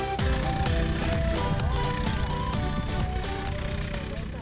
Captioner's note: engine roaring